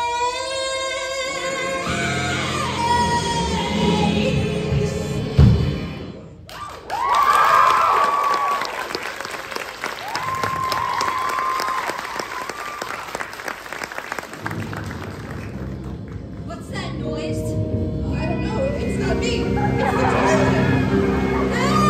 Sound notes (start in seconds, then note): 6.1 pipes bursting; 6.5 applause